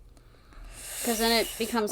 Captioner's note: sighs